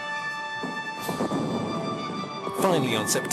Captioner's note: heavy artillery booming